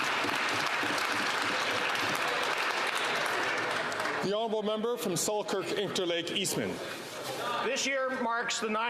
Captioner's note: some Applause